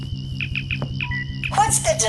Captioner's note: communicator chirp